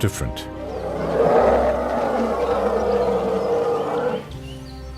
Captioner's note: trumpeting